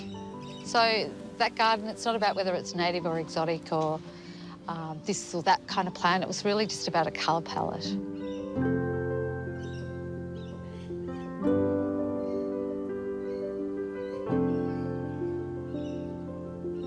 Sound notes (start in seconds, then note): 8.7 serene music continues; 11.6 birdsong